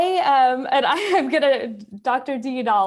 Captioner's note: chuckles